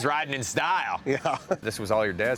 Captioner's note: laughs